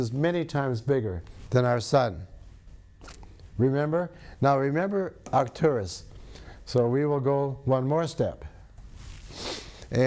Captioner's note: sniffs